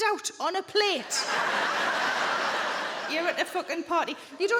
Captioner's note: crowd laughs